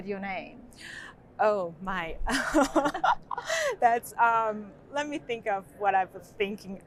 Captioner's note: laughs